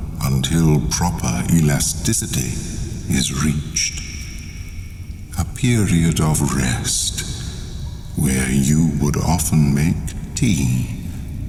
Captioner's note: cave noises